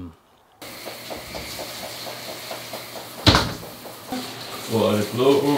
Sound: water running

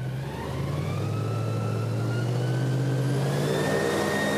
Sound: boat fan whirs to take off

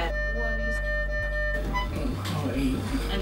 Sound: machine beeping

